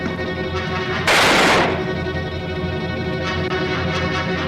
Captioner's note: gun fires